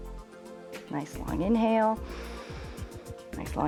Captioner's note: inhales